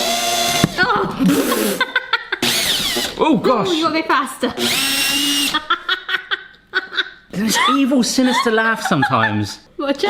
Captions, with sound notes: (laughs) (drill whines) - Oh gosh! - You'll go faster. (laughter) - Its' the evil, sinister laugh, sometimes.